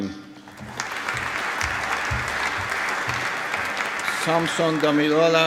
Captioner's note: applause